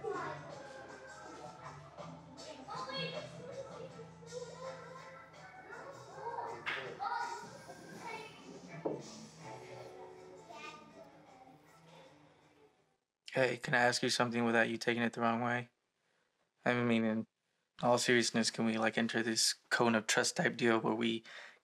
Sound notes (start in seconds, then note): 9.3 talking and music fade